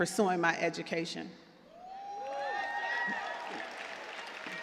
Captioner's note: cheers and applause